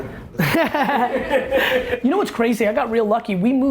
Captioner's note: laughing